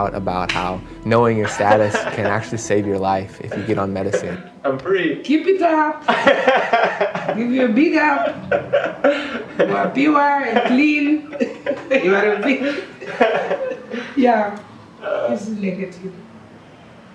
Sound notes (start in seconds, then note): 6.7 laughing